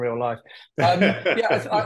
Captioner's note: laughs